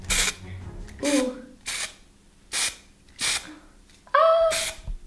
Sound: spray paint oozing

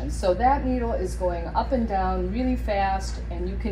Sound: none

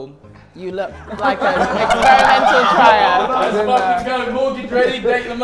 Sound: Sidemen laugh and chat

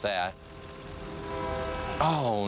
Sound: train whistle

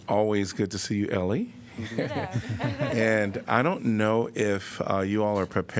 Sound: laughter

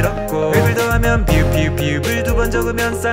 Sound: 'p' sound

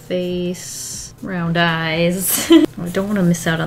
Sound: laughs

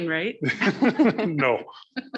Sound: all laughing

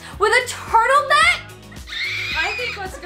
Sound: screeching

